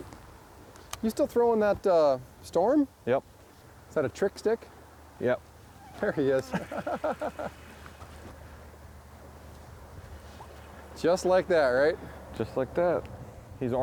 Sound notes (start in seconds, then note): 9.2 laughing